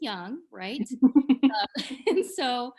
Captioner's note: laughs